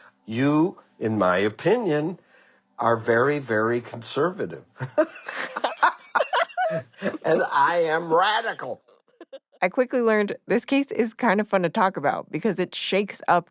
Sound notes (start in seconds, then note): 5.1 laughs